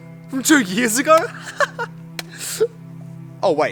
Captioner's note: laughing